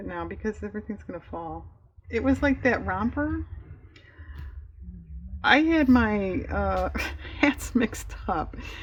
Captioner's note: laughs